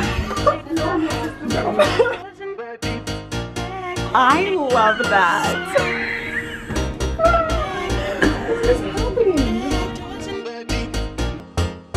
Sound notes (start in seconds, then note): 0.0 laughing; 5.5 all laugh